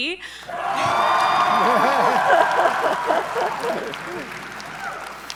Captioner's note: audience members cheering